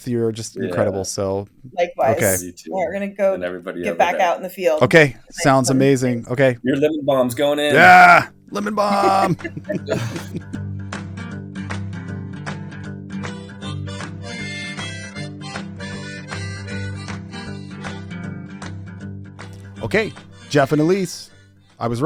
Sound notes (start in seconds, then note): 8.6 chuckles; 10.5 light country music